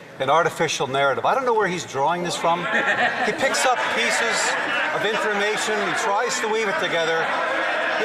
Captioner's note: some Applause